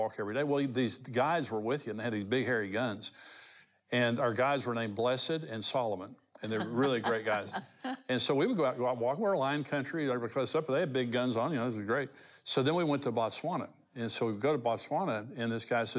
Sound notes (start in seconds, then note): 6.4 chuckles